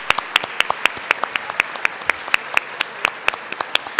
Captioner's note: applause